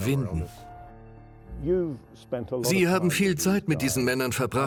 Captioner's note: voiceover